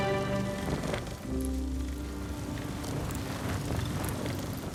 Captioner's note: lively music; flames flickering